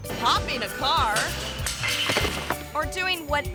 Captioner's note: pogo stick clatters; thuds